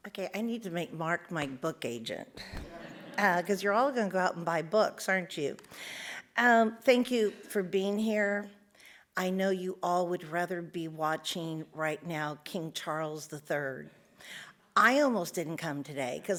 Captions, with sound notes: - Okay, I need to make Mark my book agent, (audience laughs) 'cause you're all gonna go out and buy books, aren't you? Thank you for being here. I know you all would rather be watching right now King Charles III. I almost didn't come today,